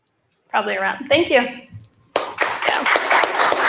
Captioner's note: applause